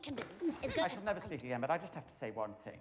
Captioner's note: none